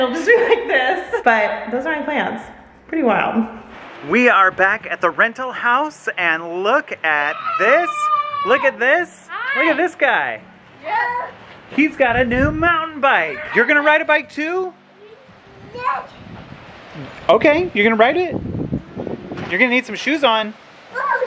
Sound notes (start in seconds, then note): 0.9 laughs; 7.2 screams